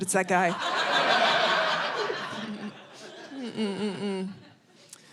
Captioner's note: audience laughing